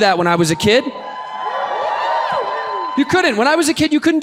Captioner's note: audience cheers